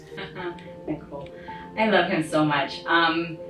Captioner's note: laughs